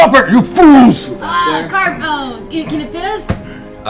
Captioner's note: groaning